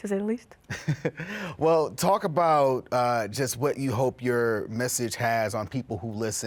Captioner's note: laughs